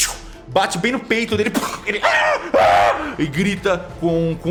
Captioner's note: shhhew; aaah aaah